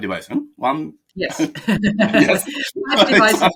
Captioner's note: both laugh